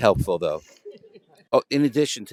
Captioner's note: laughter